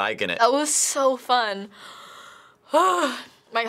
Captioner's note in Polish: wzdycha głęboko